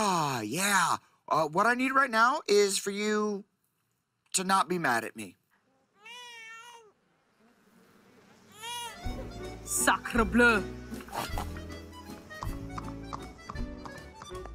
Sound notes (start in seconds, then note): 5.4 baby crying